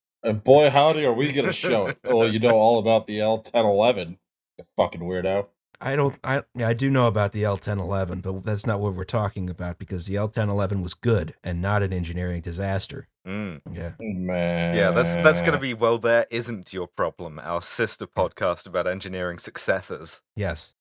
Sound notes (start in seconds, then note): 0.7 laughter